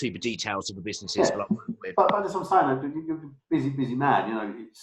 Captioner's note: murmuring